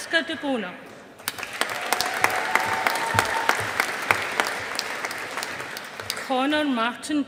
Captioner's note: audience applauding